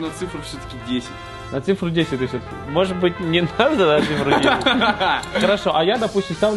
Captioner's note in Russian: смеется